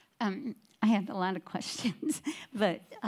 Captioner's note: laughs